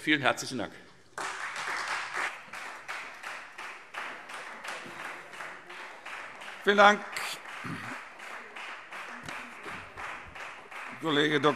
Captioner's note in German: Beifall Freie Demokraten